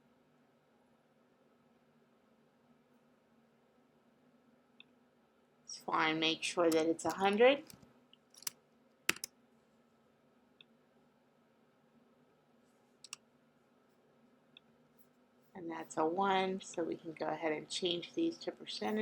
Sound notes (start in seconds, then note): 8.3 long pause